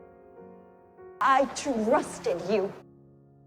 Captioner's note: voiceover; shouting